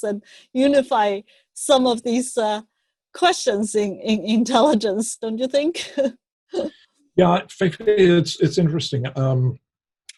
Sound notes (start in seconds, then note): 6.1 laughs